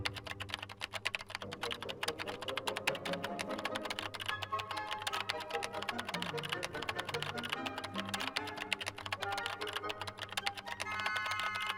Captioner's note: keyboard clicks; playful music